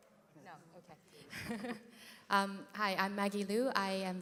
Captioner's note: laugh